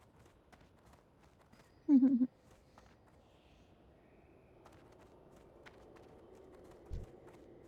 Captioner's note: giggles